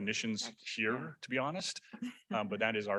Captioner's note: chuckles